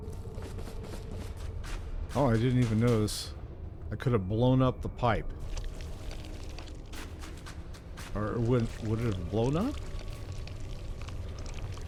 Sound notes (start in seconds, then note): none